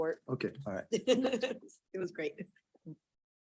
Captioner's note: chuckles